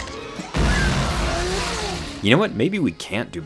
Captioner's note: laser firing